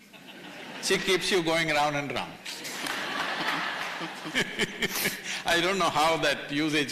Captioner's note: laughter; laughter/Applause